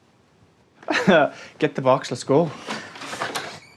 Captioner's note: chuckles